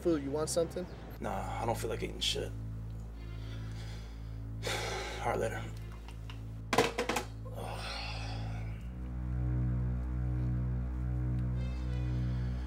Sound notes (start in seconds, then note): 3.6 sighs